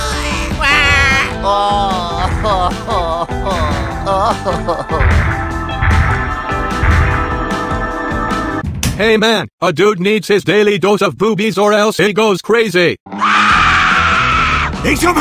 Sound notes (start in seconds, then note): 13.1 screams of fear